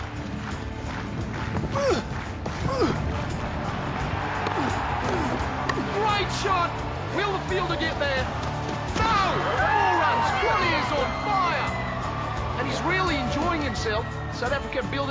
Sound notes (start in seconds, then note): 2.6 grunting; 4.4 cricket bat cracking against ball